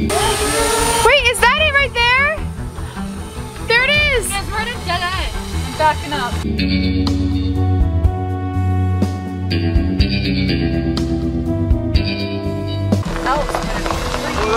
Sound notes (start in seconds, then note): 0.8 drone buzzing; 7.3 cowboy music